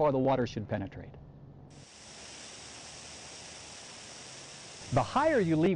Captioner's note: sound of sprinklers